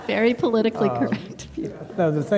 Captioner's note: laughter